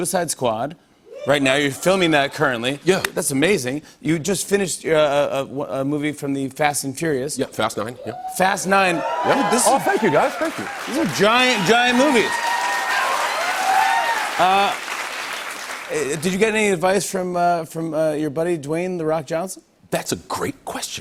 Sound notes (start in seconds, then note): 8.2 cheers; 11.9 cheers and applause